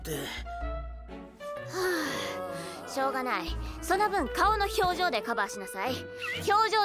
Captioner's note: sigh